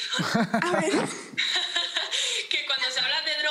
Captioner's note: laughs